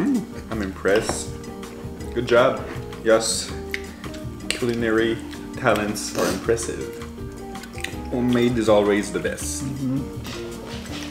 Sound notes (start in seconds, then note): 6.1 sniffles